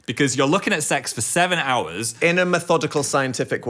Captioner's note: none